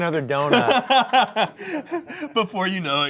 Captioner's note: laughs